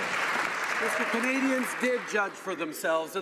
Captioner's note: some Applause